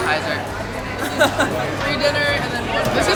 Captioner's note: laughing